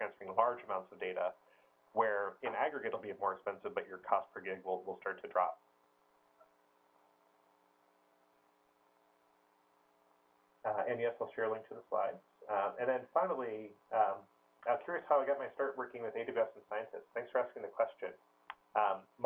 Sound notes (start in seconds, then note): 5.7 pause